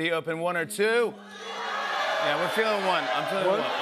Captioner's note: audience shouting